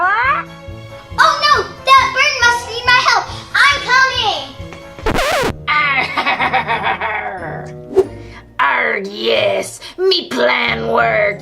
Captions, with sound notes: - Oh no, that bird must need my help! I'm coming! (record scratching) - (laughs) Yes, my plan worked!